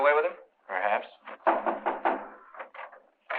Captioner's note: knocking on door